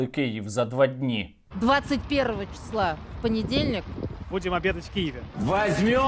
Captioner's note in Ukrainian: голос Скабєєвої